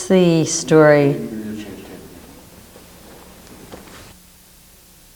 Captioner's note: man speaks off mic